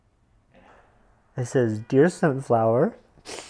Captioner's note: sobs